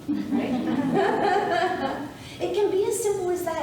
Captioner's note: audience laughing